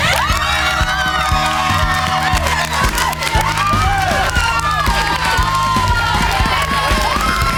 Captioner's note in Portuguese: Gritos